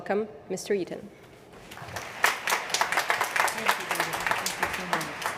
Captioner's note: applause